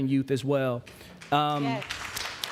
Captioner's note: applause